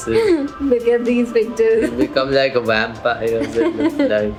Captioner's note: laughs